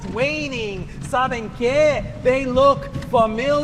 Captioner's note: speaker speaking in foreign language